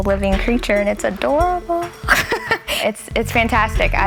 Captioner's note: laughs